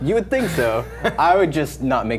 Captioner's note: laughing